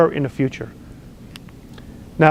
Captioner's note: lip smack